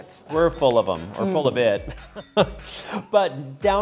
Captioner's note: chuckles